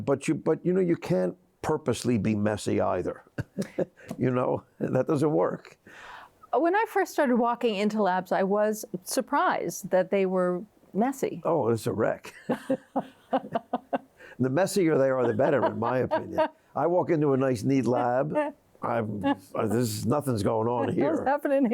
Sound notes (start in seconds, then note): 3.4 laughs; 12.3 laughs